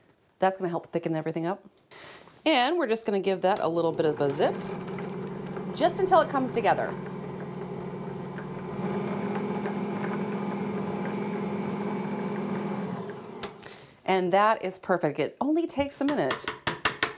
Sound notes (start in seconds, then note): 8.0 mixer whirring